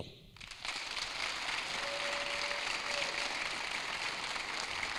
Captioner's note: audience applauding